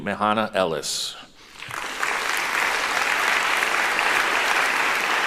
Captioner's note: applauding